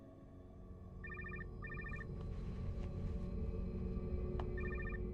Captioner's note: cell phone ringing